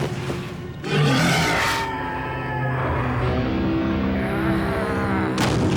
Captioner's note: roars; screams